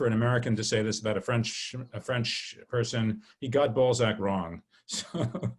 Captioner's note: laughs